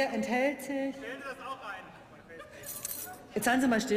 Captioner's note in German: Zwischenrufe